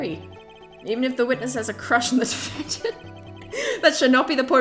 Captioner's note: laughs